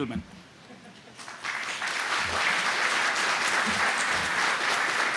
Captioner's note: applause